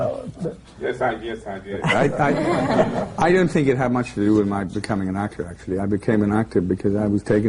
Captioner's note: laughter